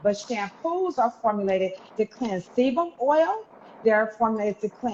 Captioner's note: none